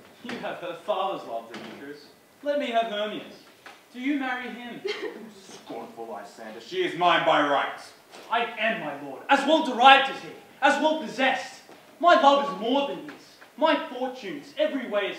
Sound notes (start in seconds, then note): 4.4 laughs